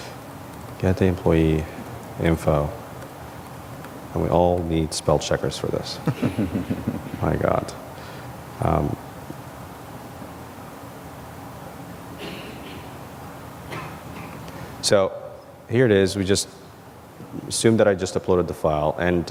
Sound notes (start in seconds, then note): 6.0 laugh; 12.2 member of audience coughs